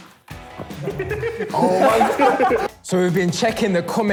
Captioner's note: laughs